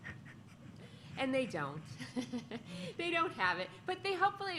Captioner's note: laughter